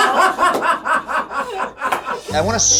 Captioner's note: laughs